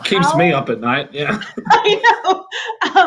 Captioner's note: laughing